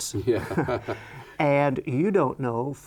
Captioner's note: laughs